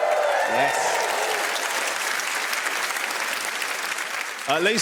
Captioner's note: audience applauds